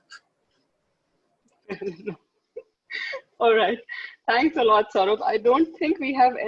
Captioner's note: laughing